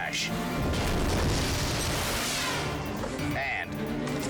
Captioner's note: tube crashing